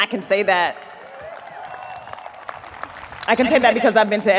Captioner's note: audience applauding